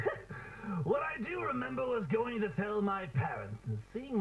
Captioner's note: chuckles